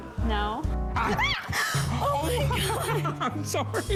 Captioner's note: screams